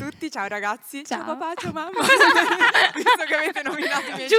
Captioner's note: laughing